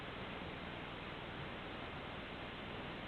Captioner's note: none